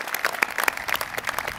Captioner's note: applause